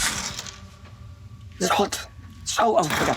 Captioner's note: whispering